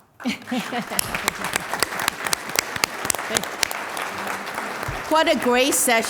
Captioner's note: applause